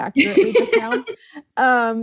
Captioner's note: host laughs